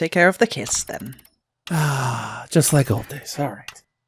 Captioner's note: sighs